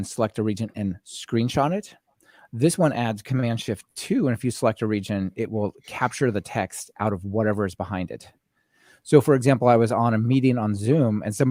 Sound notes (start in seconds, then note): none